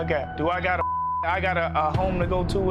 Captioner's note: beep